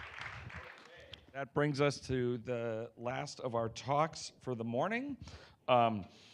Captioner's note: applause